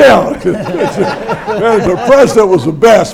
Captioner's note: everyone laughs